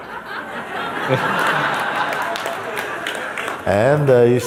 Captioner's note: Lachen und leises Klatschen